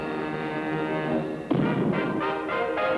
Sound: ominous music; cannon booming

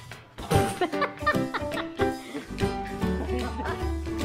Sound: in video laughs; people in video laugh

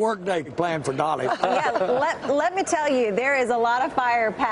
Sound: laughter

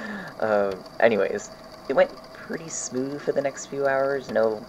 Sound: laughing

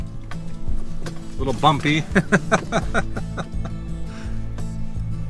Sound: laughter

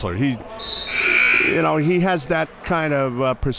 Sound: buzzer dings

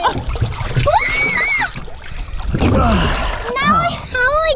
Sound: screams

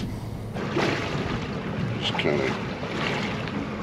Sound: water lapping

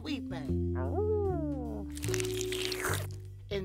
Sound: slurps

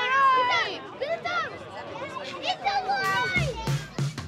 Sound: children shouting

